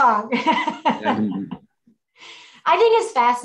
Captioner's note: laughs